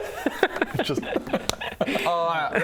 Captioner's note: slap